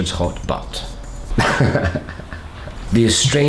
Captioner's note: laughter